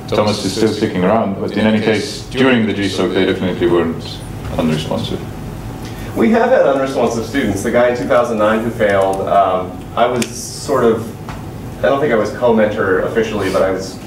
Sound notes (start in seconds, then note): none